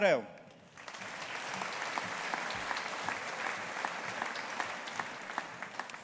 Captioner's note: audience applauding